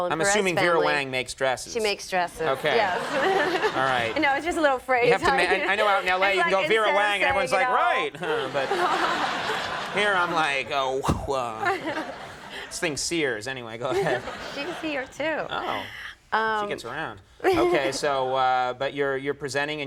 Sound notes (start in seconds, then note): 3.9 audience laughing